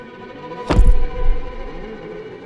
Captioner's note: thumping